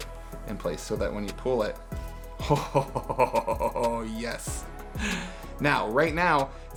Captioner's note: laughs